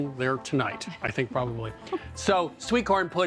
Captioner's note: chuckles